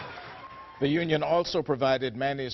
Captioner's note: applause